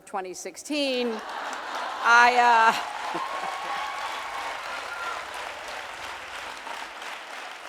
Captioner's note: audience cheering